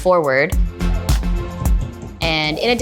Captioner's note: hammer pounding